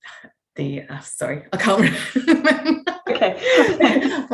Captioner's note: chuckles